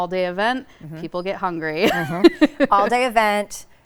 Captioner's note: laughs